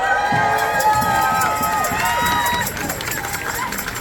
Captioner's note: applause